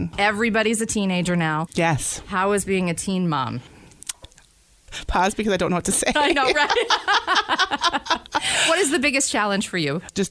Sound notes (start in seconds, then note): 6.2 laughter